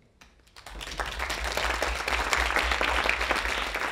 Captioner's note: audience applauding